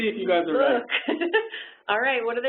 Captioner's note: laughs